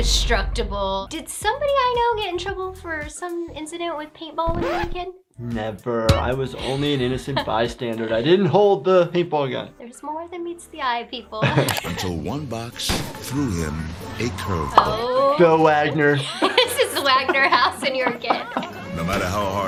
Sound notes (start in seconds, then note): 4.5 record scratching